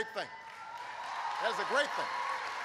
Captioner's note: applause